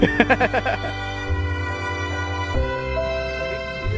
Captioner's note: laughing